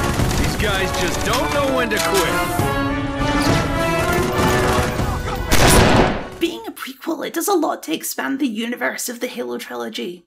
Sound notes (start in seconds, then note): 5.5 blam!